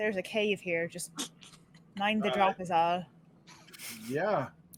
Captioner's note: laughing